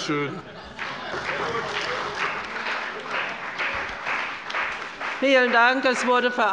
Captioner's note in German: Beifall bei der CDU und dem BÜNDNIS 90/DIE GRÜNEN